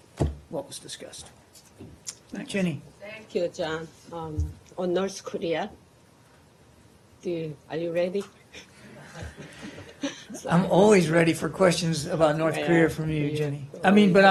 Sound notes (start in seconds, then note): 8.9 laughter